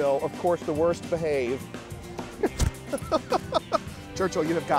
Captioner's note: laughter